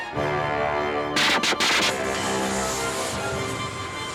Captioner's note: torch sputtering